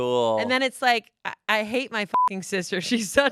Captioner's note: beep